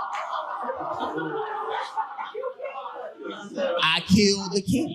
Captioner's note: audience laughing